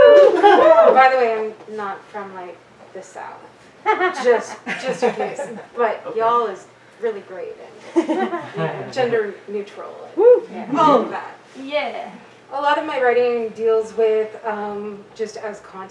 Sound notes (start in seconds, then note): 0.0 audience woos; 4.7 audience giggles